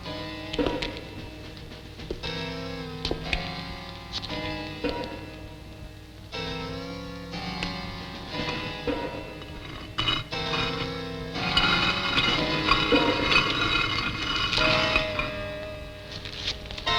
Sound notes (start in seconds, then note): 10.1 stone scraping